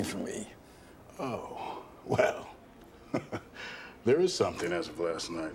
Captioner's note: chuckles